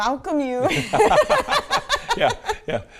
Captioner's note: both laughing